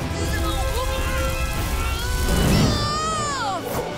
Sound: grunting

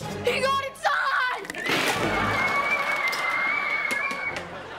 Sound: screaming

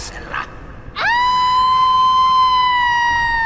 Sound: moaning!

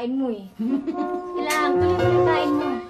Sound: laughs

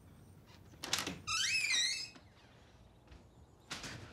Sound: door creaks

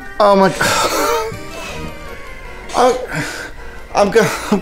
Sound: gasping

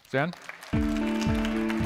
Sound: applause

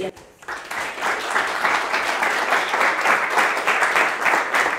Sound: applause

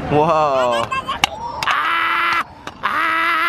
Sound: chomp chomp, click click

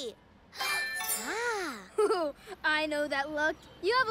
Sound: gasps

